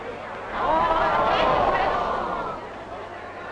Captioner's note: group gasping; group chattering